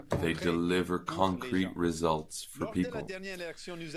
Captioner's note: speaking French